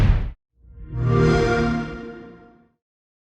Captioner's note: xbox sound